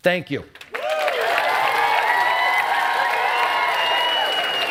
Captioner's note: cheering and applause